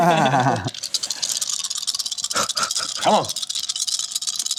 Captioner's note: laughs; dice rattling